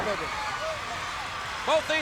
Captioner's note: crowd cheering